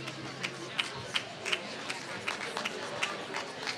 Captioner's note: applause